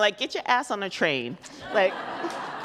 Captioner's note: audience laughs